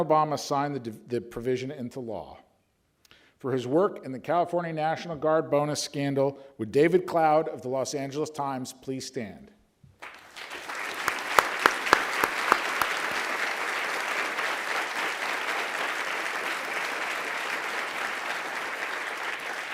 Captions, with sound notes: President Obama signed the provision into law. For his work in the California National Guard Bonus scandal, would David Cloud of the Los Angeles Times please stand. (applause)